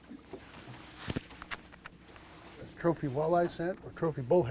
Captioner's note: fish splashing